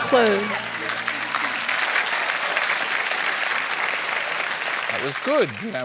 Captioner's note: applause